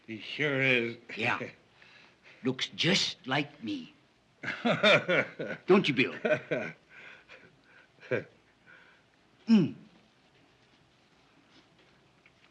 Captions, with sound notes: - He sure is. - Yeah. Looks just like me. [laughs] Don't you, Bill? Hmm.